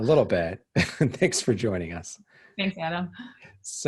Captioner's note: laughs